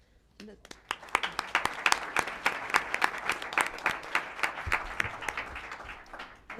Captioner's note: applause